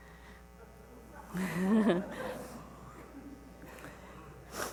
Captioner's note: laughs